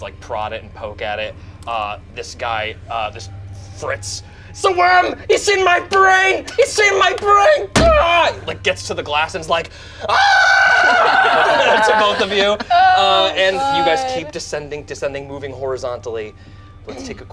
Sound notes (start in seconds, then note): 10.0 screams; 12.9 group laughs